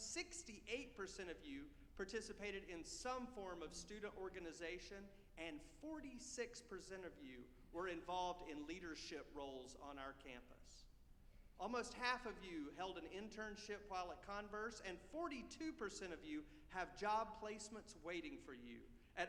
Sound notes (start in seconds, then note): none